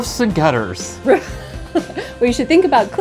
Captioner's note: laughs